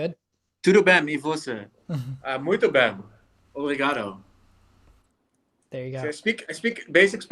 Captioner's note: Pieter speaking in foreign language